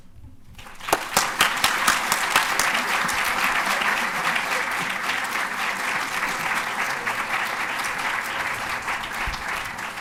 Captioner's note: applause